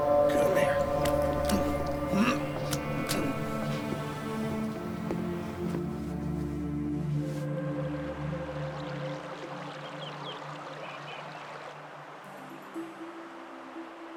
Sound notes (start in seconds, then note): 8.2 water gurgling; 12.2 playful music